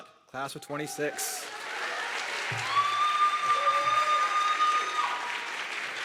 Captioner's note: audience clapping and cheering